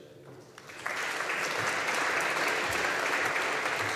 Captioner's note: audience applauding